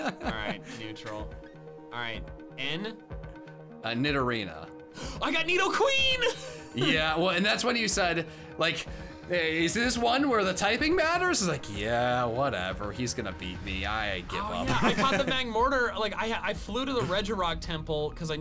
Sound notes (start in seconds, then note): 0.0 laughs; 5.4 gasps